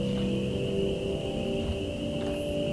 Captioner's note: crickets